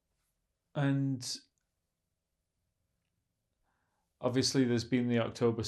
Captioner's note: pauses 4 seconds